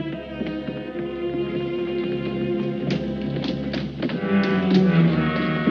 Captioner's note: footsteps thudding